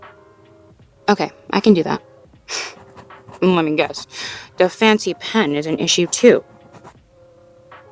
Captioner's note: pouty voice, writing sounds